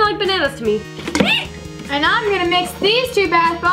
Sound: shrieks

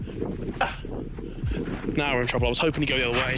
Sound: panting

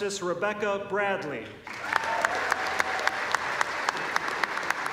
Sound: applause

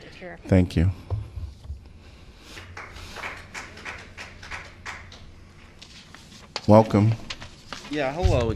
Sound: applause

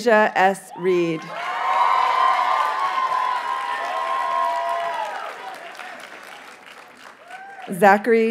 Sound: audience cheers and applauds

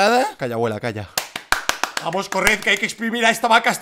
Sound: claps

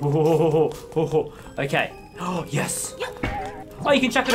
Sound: gasp

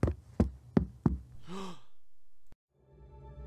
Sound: Alef gasps

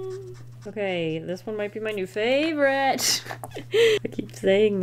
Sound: laughs

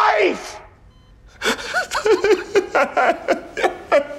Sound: sobbing

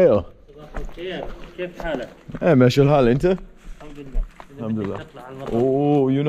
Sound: speaking Arabic

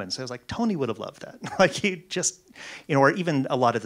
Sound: laughs

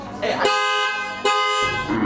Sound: car

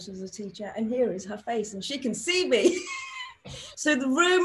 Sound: laughs

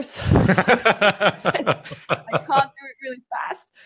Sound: both laughing

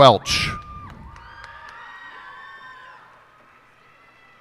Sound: cheers and applause

